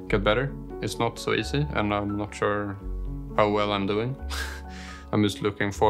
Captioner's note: laughs